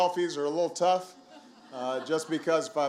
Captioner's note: laughter